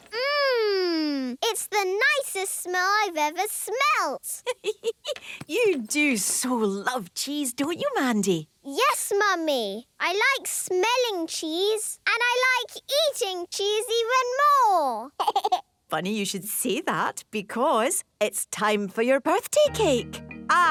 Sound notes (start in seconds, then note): 4.4 giggling